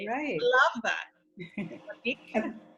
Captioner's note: chuckles